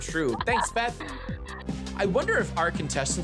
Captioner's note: chuckling